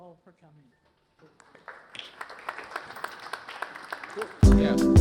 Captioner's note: applause